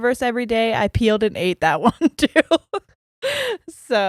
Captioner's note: giggles